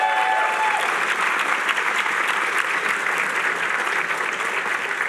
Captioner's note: applause